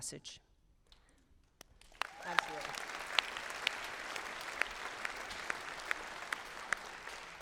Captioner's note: applause